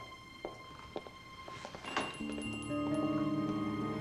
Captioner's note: bell jingles